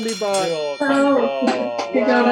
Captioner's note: bell ringing